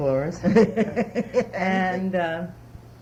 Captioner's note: laughs